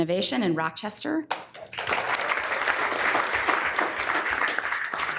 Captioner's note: members applauding